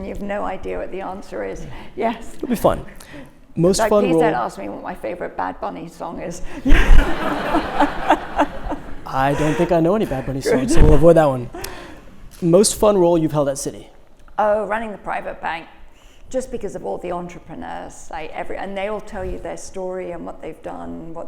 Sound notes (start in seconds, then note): 6.6 audience laughs